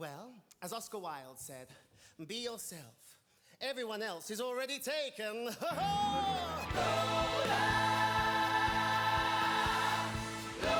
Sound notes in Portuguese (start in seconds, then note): 6.3 laughs